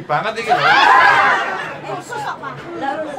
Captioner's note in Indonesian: tertawa